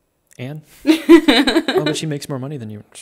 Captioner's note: laughing